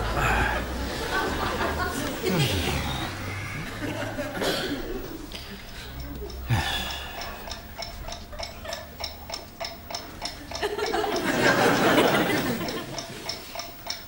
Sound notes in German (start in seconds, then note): 6.5 Uhr tickt